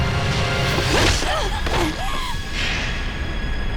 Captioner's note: dramatic suspense music; blade whooshes; women grunting